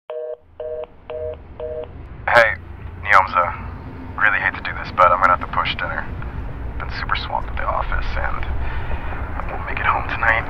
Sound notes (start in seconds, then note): 1.6 phone signal busy